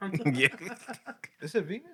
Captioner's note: laughing